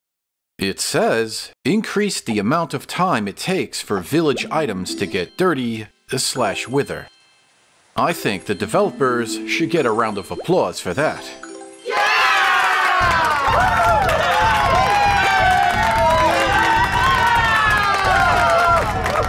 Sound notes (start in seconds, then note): 11.9 cheering!; 17.6 fireworks